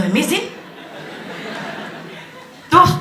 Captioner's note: laughter